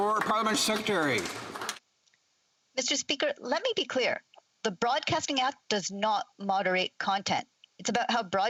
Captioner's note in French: voix de l'interprète